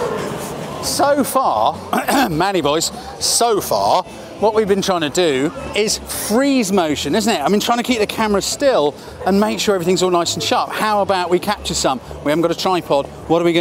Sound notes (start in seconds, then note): 1.9 cough cough